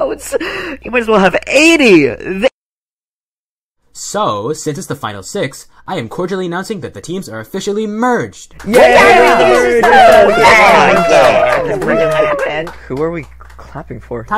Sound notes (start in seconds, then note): 8.6 cheering